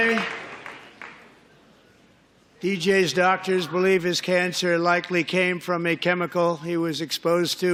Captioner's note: applause